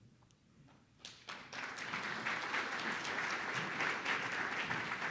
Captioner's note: audience applauding